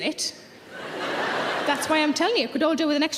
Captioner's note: audience laughing